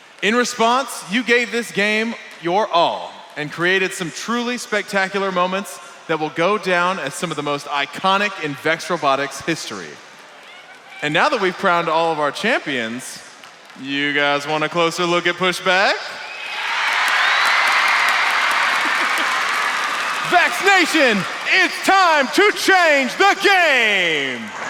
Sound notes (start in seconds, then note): 16.1 crowd cheering loudly; 24.4 crowd cheers louder